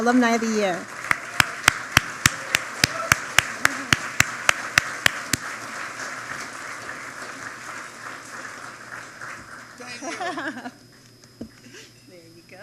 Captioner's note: applause